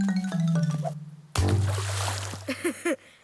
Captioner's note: comical music; loud splashing; laughing